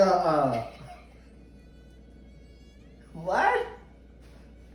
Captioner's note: laughing